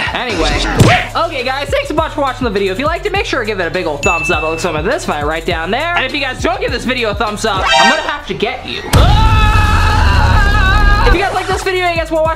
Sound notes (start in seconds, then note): 1.0 punch sound; 9.0 he yells